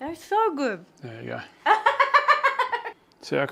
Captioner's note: laughs